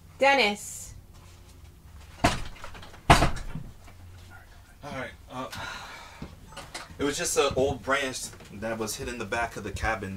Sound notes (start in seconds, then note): 3.0 item banging